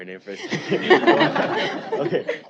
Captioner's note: laughter